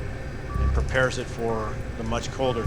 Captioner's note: cryo chamber beeping